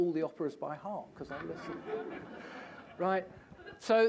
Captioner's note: laughter